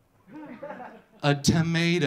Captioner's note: audience laughing